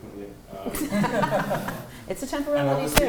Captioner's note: laughter